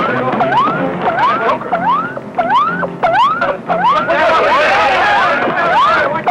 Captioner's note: electronic beeping; yelling